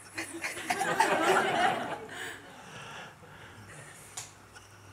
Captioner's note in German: Lachen